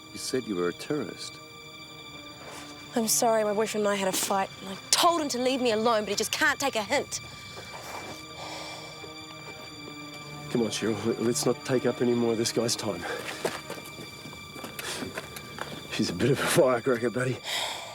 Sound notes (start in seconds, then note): 8.7 Jodie sighs; 8.7 suspenseful music